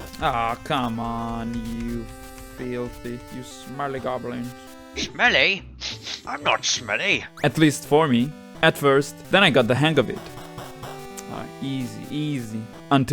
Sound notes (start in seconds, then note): 6.0 sniffs